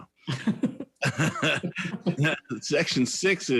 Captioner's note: laughs